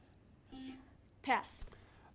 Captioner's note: buzzer buzzes